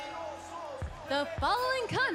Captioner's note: bell ringing